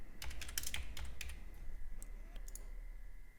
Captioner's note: typing